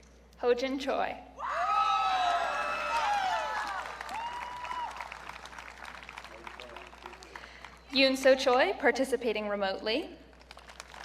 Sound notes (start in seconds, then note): 1.4 audience cheering; 10.4 audience clapping